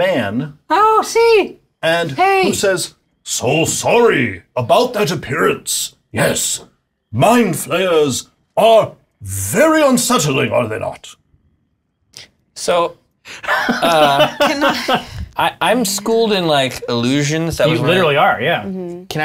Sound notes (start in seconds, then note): 3.0 deep voice; 13.3 laughing